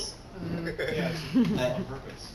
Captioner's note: laughter